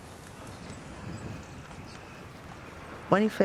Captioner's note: birdsong